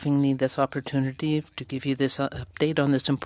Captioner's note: speaking French